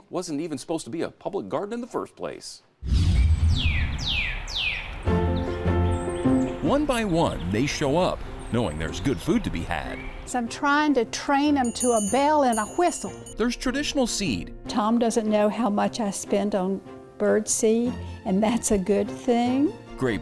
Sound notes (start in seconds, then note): 4.1 birds chirping; 5.1 upbeat music